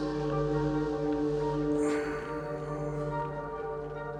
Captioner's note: sighs